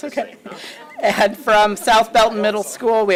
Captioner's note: laughs